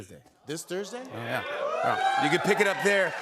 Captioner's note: cheers and applause